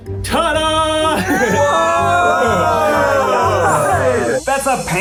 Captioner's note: everyone wowing